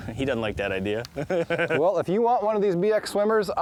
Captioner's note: laughing